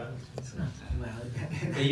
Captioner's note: laughs